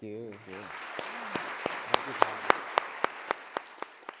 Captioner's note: audience claps